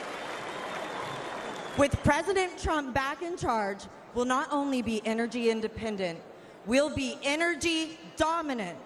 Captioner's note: applause